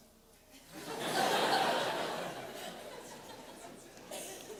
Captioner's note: laughter